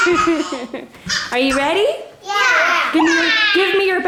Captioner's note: laughs